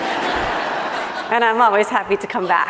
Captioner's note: laughing